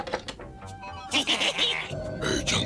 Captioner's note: laugh